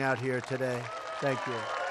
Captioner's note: applause